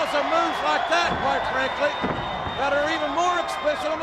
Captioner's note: body thudding